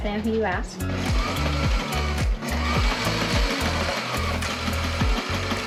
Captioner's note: sewing machine whirring